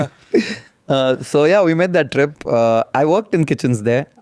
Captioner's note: laughs